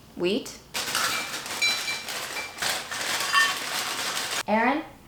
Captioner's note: plates clattering